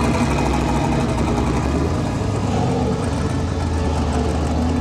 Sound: mufflers rumbling

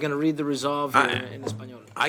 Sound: speaking foreign language

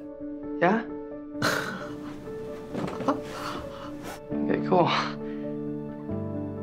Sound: chuckles

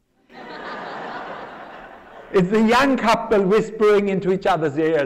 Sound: laughter

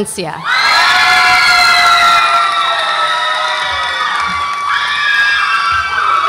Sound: audience applauds and cheers

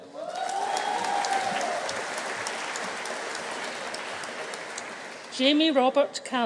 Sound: audience cheering; audience applauding

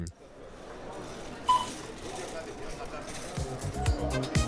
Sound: shop sound

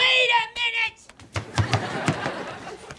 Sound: laughing

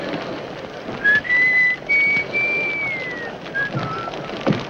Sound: judge whistling

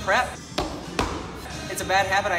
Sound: feet stomping

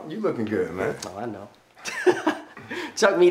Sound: chuckles

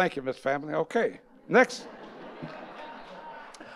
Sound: audience laughing

